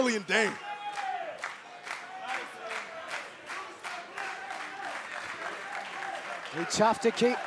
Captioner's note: crowd cheering